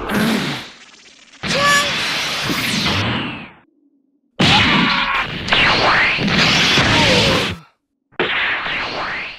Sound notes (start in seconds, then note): 4.3 VEGETA screams; 7.1 VEGETA groans